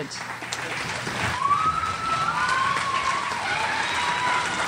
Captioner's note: crowd cheers